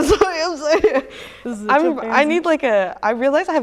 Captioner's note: chuckles